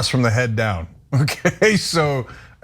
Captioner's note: laugh